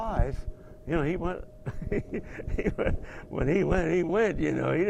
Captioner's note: laugh